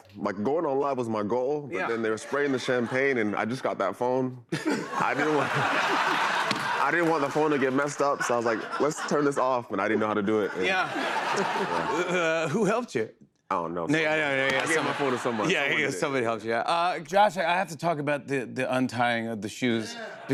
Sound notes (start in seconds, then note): 6.0 laughter; 11.2 laughter